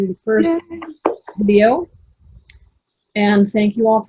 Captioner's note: all cheering and clapping